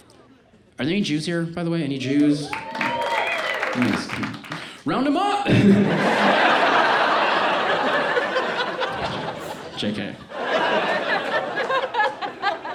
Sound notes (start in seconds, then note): 2.0 audience cheers; 5.4 audience laughs